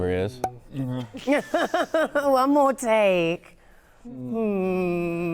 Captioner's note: laughing